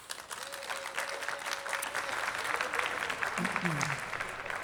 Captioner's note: attendees clapping